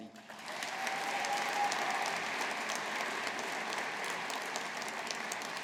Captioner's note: audience applauding